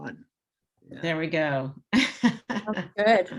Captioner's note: chuckles